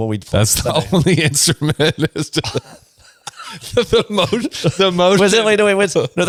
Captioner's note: laughs